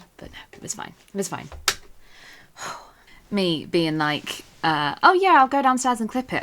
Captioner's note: sighs